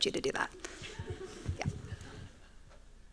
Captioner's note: laughter